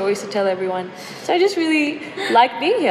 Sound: chuckles

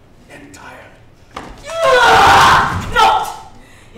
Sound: scream

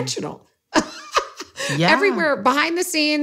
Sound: laughs

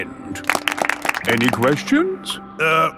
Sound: all clapping

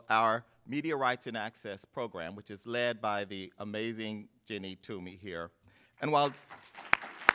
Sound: applause

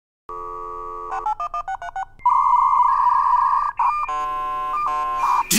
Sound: fax machine sound effect

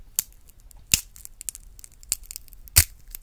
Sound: cracking peanut

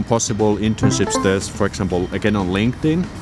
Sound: ding

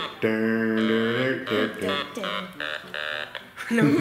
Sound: humming notes

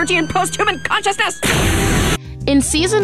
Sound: laser gun fires

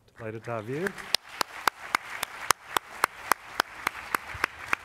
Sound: applause

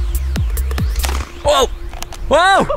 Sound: club pops

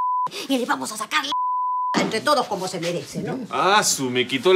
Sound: beep

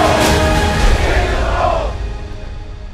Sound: chanting ends

